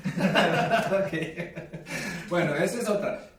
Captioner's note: laughing